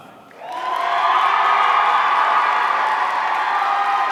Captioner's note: audience cheering